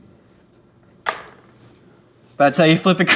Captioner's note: crepe flops